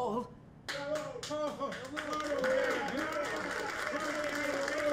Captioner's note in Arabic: الجمهور يصفق